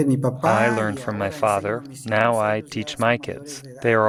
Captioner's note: through translator